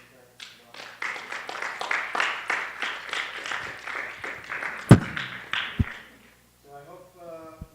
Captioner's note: applause